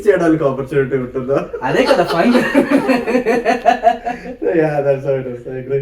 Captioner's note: laughs